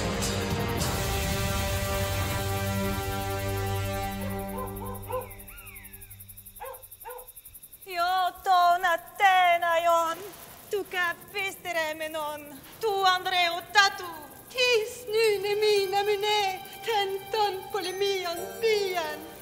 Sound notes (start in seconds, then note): 4.5 dog barking; 8.1 mourner speaking in foreign language; 14.6 mourner speaking in foreign language